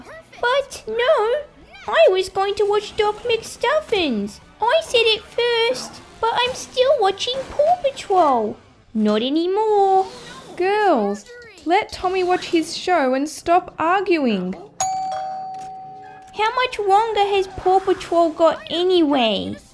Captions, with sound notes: But... No! I was going to watch Doc McStuffins I said it first But I'm still watching Paw Patrol Not anymore Girls! Let Tommy watch his show and stop arguing (Doorbell) How much longer has Paw Patrol got anyway?